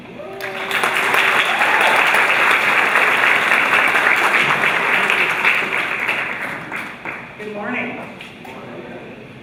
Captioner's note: applause